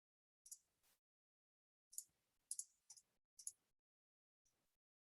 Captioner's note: mouse clicking continues